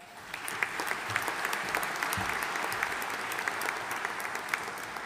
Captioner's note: audience applauding